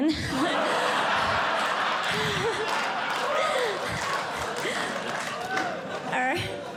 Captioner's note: audience Laughing